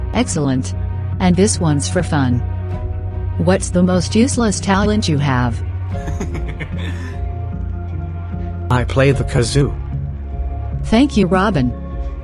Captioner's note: giggles